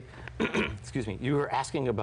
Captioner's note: clears throat